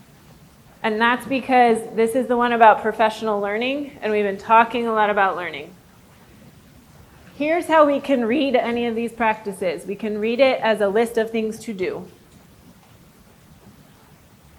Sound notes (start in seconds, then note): none